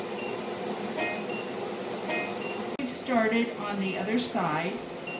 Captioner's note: medical device beeps